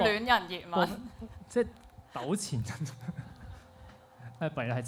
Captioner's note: laughs; laughs